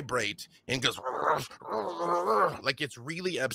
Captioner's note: growls